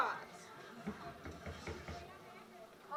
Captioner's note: knocking